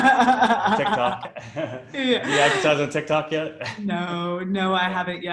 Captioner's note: laughs